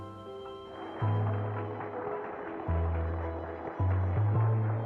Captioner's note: applause